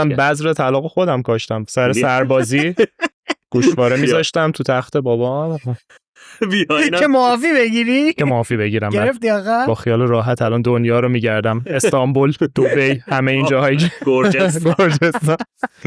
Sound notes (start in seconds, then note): 1.8 laughs